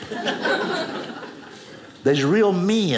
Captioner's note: audience laughing